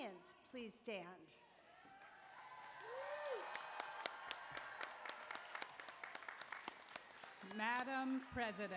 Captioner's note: applause